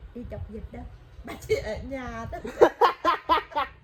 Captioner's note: laugh